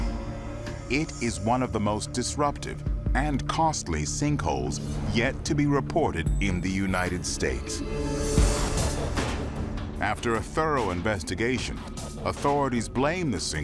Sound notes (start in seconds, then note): none